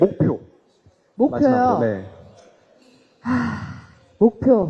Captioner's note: sighs